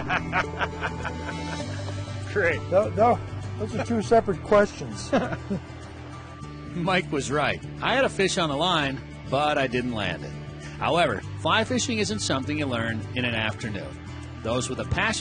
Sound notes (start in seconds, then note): 0.0 laughing; 5.0 laughs